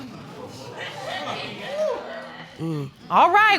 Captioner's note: audience exclaiming